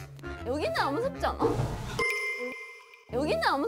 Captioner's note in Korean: 쿠쿵